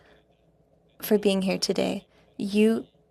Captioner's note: speaking French